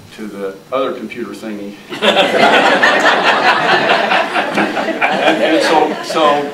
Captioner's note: audience laughing